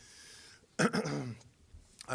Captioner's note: clearing throat